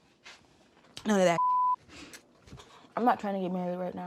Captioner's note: beep